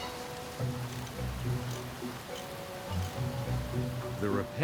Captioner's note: socket wrench clicking